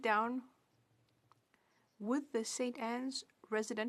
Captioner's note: speaking French